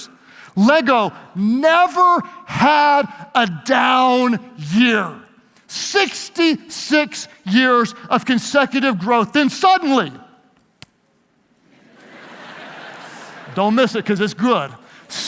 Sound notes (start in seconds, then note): 10.2 tapping; 11.7 audience laughs